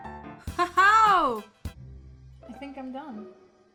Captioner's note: upbeat music; laughs